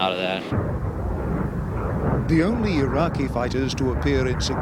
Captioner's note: jet engine roaring